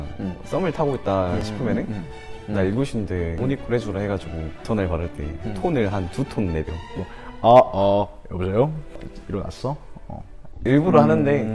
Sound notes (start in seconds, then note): 7.4 lowering voice